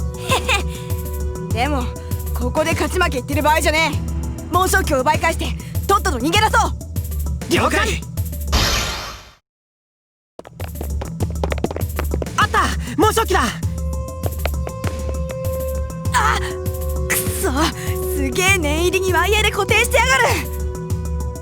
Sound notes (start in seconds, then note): 0.2 chuckle; 17.7 gasp